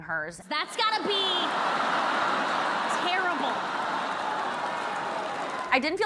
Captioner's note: audience laughing